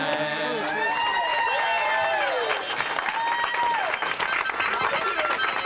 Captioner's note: crowd applause and cheers